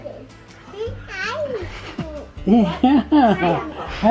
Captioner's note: vocalizing